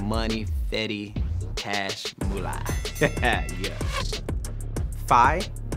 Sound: bell rings

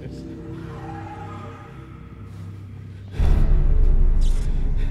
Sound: creature screeching

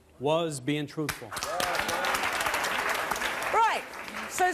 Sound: audience applause

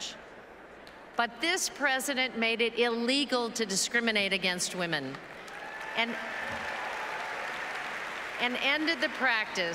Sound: aplauses

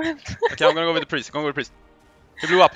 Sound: haha

